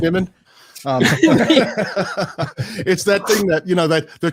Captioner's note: laughs